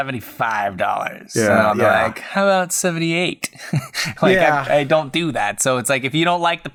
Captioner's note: chuckles